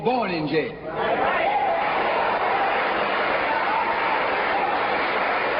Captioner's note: audience clapping